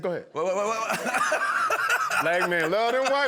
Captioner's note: laughter